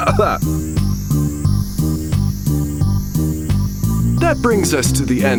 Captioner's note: gagging